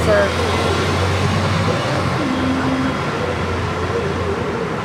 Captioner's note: whirring traffic